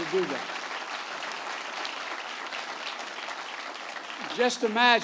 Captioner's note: applause